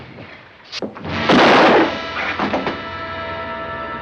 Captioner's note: gunshot